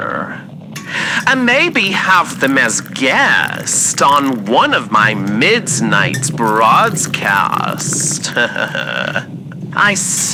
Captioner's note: ladling soup into his bowl fx